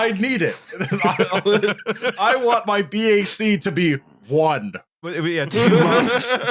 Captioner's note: laughter; laughter